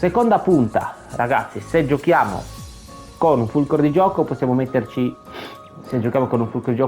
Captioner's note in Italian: sbuffare